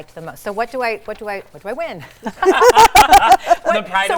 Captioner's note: laughs